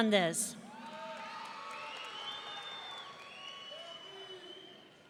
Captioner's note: audience cheering